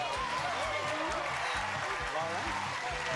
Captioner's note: crowd cheers